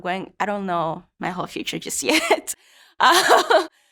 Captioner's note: laughs